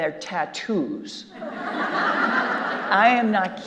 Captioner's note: audience laughing